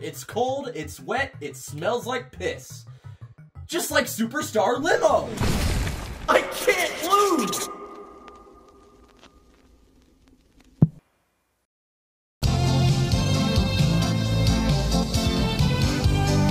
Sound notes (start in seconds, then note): 5.3 outro thud